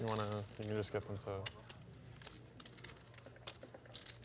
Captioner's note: chips clatter